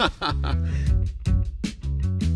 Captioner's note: laughs; upbeat music